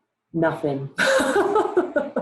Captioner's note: laughs